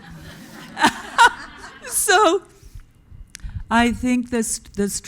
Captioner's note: audience laughing